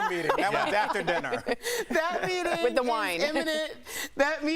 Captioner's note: laughter